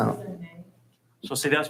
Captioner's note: hushed speaking